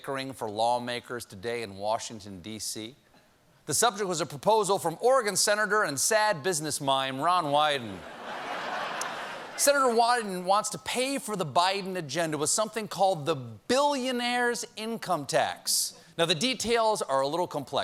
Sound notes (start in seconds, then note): 8.0 laughter